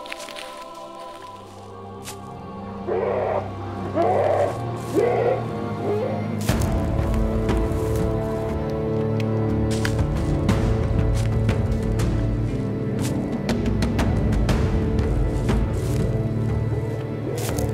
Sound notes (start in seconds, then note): 2.6 howling